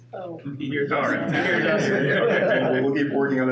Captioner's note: laughing